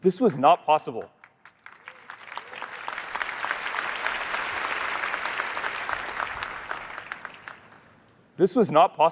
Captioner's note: applause